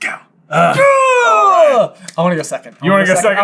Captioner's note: noise of exuberance